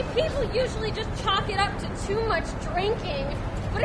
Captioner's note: none